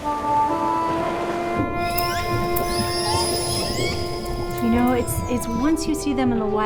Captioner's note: sorrowful music; squealing